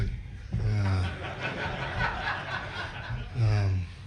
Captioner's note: laughter